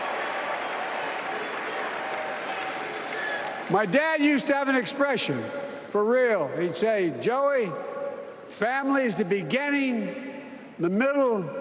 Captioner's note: applause